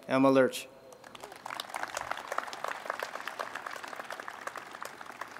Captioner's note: crowd applauding